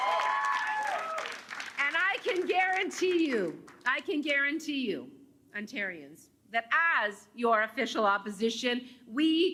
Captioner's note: cheers and Applause